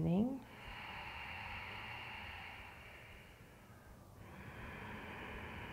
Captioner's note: deep breathing